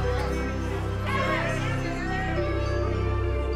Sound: photographers calling out; crowd cheering; gentle music

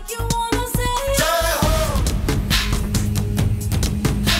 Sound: humming

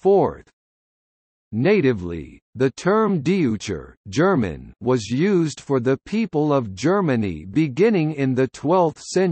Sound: German

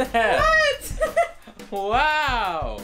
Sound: laughs

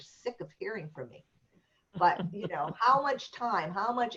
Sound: laughter

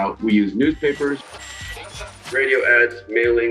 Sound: sounds of radio noise

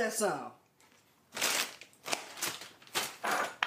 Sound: bag rustles; glass clinks

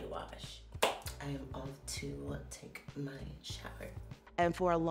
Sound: hands clap

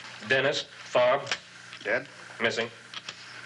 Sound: gun clicking

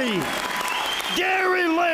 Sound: applause

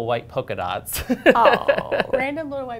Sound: laughter

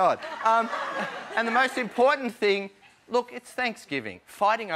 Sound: laughter

